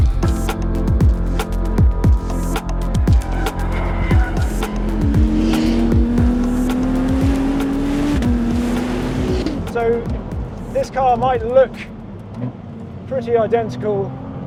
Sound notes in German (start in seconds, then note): 0.1 fröhliche Musik; 3.4 Motor brüllt; 3.4 Reifen quietschen